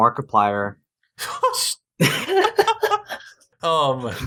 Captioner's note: insert sounds of the cinnamon roll that is losing it